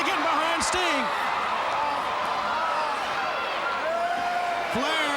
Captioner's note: crowd cheering